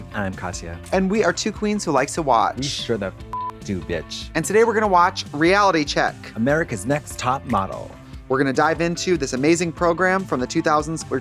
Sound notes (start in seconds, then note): 3.3 beep